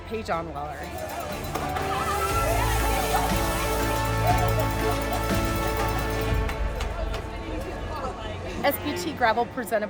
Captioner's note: celebrating and crowd applauding